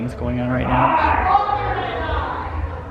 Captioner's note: yelling